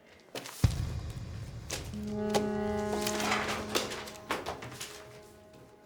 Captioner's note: soft tense jazzy music; papers shuffle